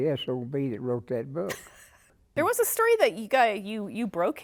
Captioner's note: laughter